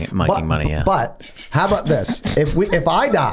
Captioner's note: Charlie laughs